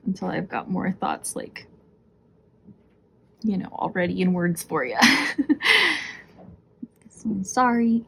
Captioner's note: laughs